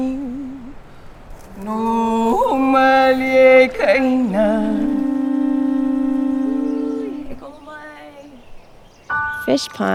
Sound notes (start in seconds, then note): 0.0 chanting; 5.2 sound of conch shell blowing